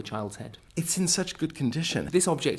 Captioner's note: voiceover